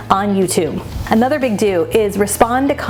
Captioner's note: transition whooshes